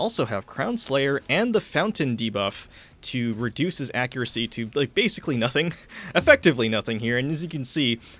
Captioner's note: chuckling